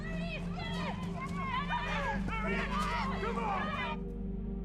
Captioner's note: crowd